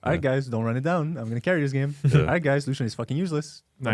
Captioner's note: laughs